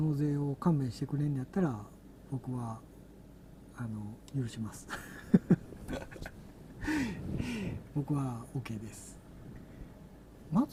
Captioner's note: laugh